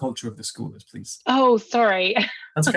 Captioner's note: laughs